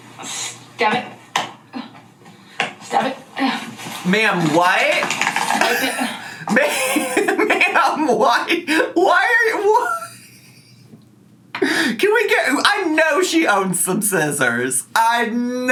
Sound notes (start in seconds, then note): 5.5 laughing